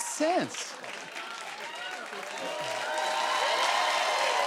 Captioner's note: cheers and applause